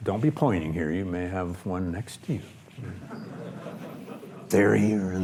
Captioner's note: audience laughs